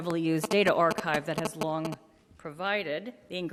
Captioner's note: beeps